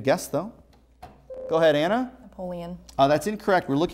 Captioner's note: buzzer